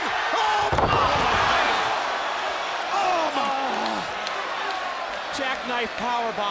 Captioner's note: audience cheers